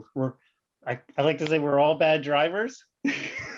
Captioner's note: chuckles